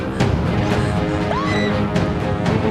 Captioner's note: screaming